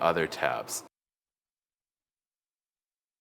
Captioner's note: pause